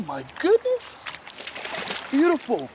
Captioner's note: fish splashing